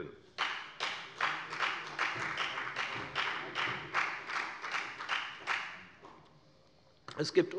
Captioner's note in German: Beifall bei der FDP